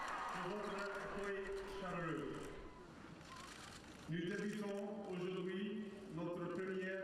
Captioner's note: crowd cheers; Prince William speaking in French; cameras clicking